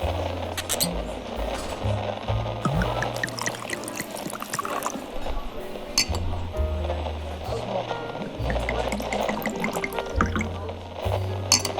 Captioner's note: waiter uncorks bottle fx, pours into wine glasses fx, sips fx